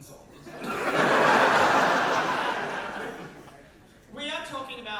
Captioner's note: audience laughter